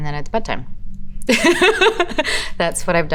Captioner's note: Elizabeth laughs